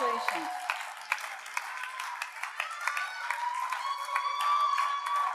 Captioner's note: audience cheers and applauds